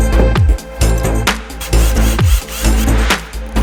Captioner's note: drill noises